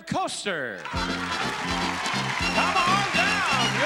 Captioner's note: cheering; upbeat music